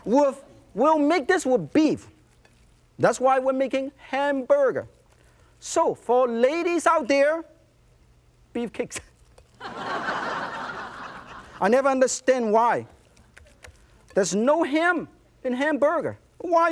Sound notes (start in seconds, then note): 9.6 laughter